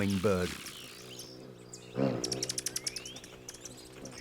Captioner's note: wings hum